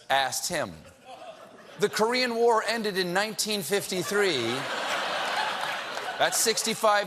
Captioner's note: laughter